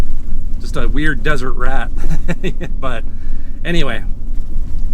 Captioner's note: laughs